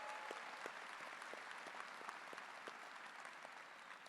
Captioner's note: cheers and applause